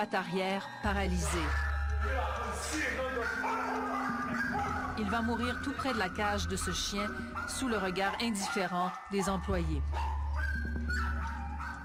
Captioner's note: French language starts, cannot decipher